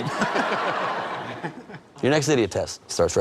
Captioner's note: both laughing